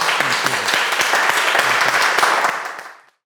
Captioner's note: audience applauds